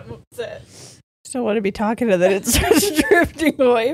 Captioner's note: laughs